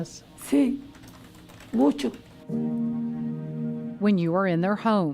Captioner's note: speaking in foreign language